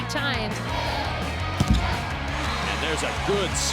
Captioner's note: crowd cheering